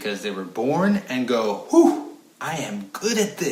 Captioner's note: blowing out air